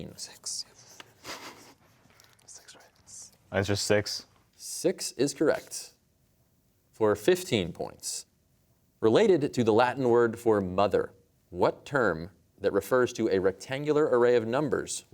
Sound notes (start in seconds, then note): 0.3 whispering; 1.0 chuckles; 2.5 whispering